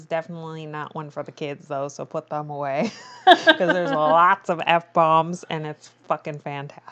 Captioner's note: laughs